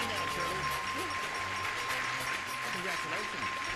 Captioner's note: dinging